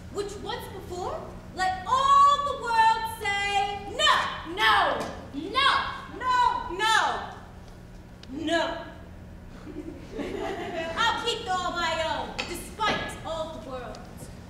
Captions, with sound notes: which once performed, let all the world say no! - No. - No. - No. - No. - No. (audience laughs) - I'll keep all my own, despite all the world.